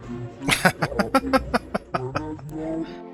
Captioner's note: laughing